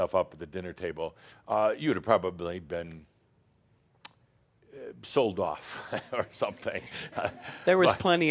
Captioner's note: chuckles